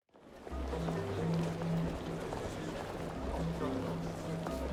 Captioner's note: people chattering